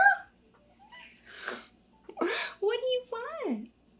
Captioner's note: Peach meows; laughs